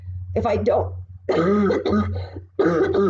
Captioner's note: coughs